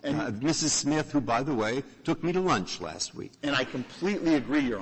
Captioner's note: laughter